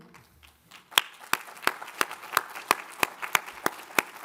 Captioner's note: all applaud